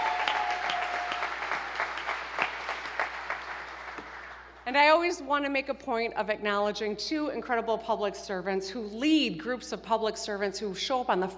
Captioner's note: cheers and applause